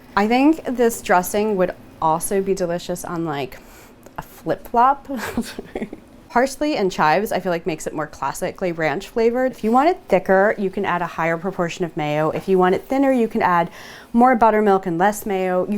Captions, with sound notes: I think this dressing would also be delicious on like a Flip-flop (chuckles) Parsley and chives. I feel like makes it more classically ranch flavored If you want it thicker you can add a higher proportion of Mayo. If you want it thinner you can add more buttermilk and less Mayo.